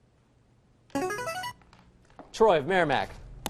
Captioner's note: buzzer